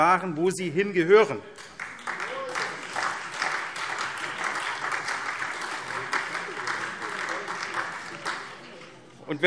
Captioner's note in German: Beifall SPD, Freie Demokraten und vereinzelt DIE LINKE